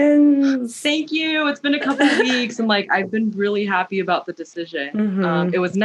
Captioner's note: mhmm